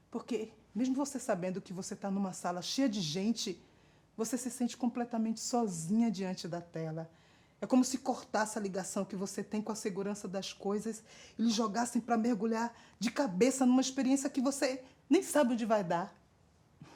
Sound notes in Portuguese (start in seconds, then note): none